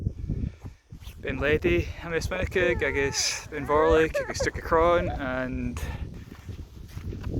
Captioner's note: crying noises